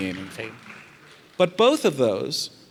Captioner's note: audience applauds